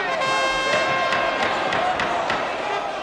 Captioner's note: gavel banging